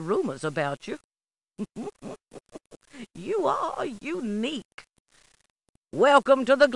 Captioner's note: chuckling